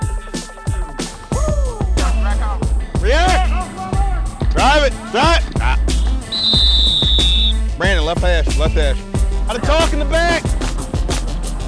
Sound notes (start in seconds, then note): 0.2 hip hop music; 6.3 whistle blowing